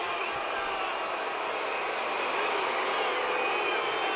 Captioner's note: audience shouting